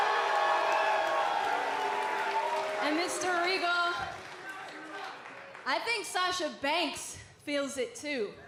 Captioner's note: cheers and applause